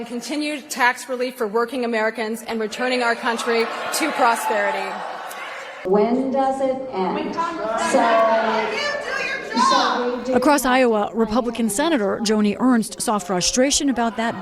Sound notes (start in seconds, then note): 6.0 shouting